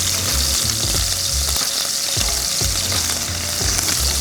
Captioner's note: oil sizzling